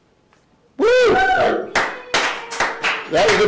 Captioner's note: production crew cheers and claps